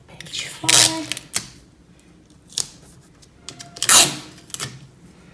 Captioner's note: tape unrolling sound